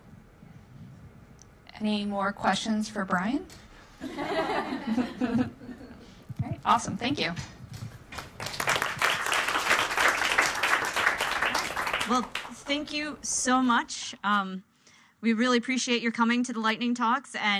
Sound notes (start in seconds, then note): 4.0 audience laughing; 8.1 audience applauds